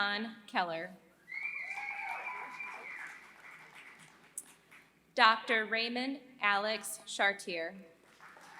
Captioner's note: applause; applause